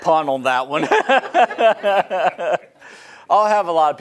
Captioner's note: laughing